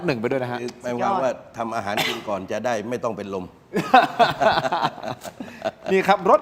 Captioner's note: laughter